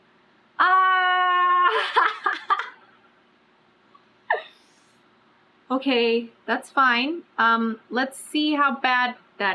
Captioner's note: laughs